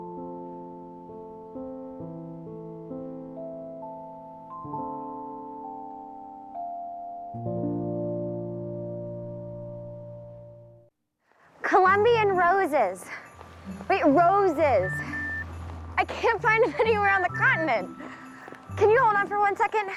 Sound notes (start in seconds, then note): 17.1 phone Beeps